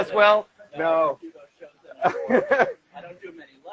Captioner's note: laughs